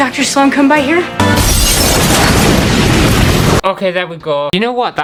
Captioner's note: explosion!!